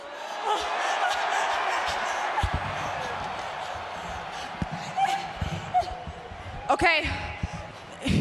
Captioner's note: crowd yells